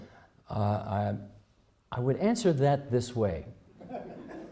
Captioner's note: laughter